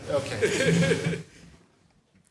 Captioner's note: laughs